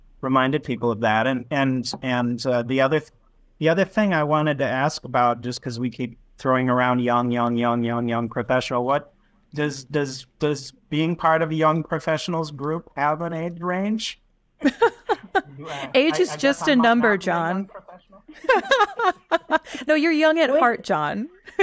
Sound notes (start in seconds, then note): 14.6 chuckles; 18.4 laughing